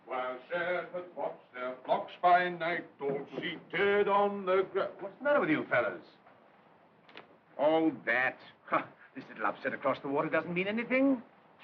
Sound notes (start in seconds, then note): 8.2 scoffs